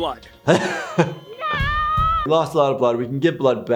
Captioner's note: laughing; yelling